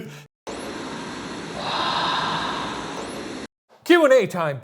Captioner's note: they laugh; ghostly whispering; static hissing